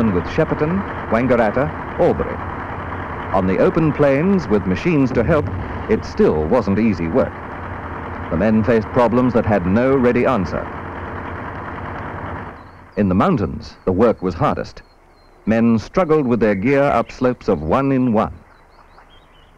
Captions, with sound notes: with Shepparton, Wangaratta, Albury. On the open plains with machines to help, it still wasn't easy work. The men faced problems that had no ready answer. (sound of machinery) In the mountains, the work was hardest. Men struggled with their gear up slopes of one in one.